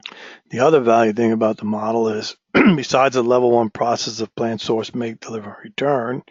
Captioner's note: cough